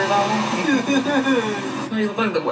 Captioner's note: laughing